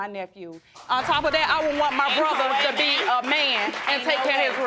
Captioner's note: audience applauds